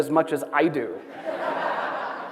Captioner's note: laughter